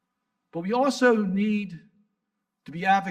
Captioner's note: none